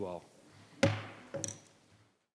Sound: gavel banging

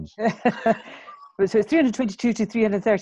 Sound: participants chuckling

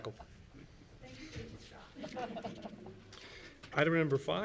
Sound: chattering; laughing

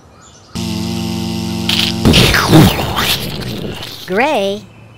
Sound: buzz; crunch; explosion

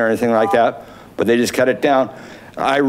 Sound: buzzer beeps

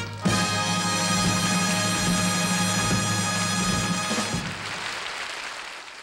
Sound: audience applauding

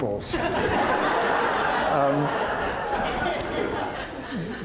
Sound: audience laughter

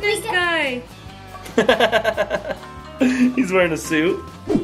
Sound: dad laughing

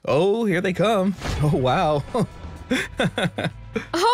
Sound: laughs

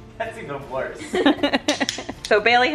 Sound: laughing

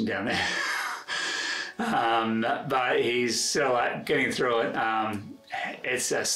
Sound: laughs

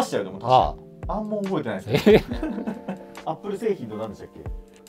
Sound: laughing

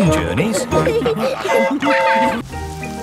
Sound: train whistle toots

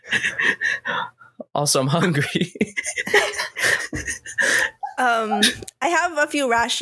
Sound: laughs

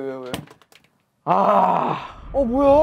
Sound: grunting

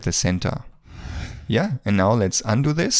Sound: screen whooshing

